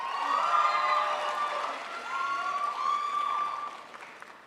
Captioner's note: crowd applauds